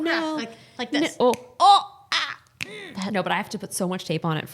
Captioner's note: fingers cracking